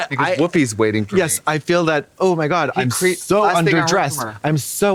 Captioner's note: none